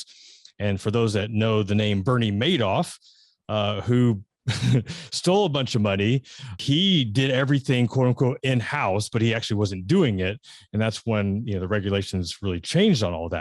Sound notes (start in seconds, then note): 4.5 laughs